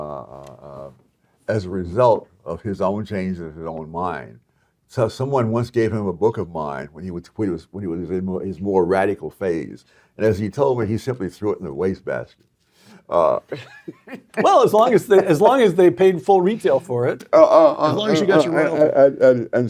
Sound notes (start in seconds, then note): 13.2 laugh